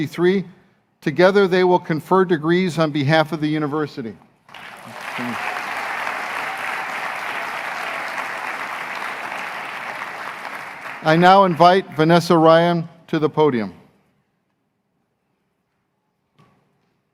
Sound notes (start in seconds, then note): 6.4 applause